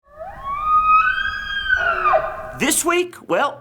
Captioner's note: elk bugling